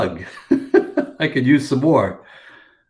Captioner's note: chuckles